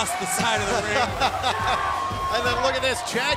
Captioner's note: laughter